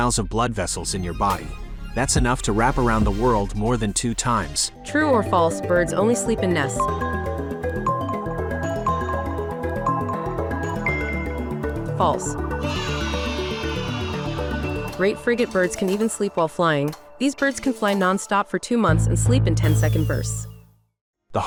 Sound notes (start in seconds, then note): 6.8 intriguing music; 12.7 children cheering